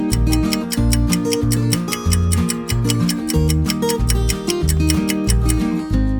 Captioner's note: clock ticking